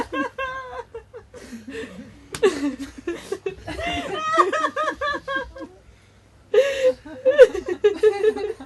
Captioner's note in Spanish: risas y sollozos continúan por algún tiempo